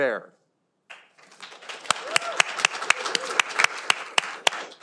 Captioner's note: audience applauding